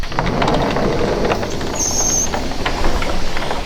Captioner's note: door opens